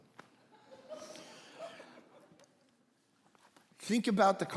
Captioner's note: congregation laughing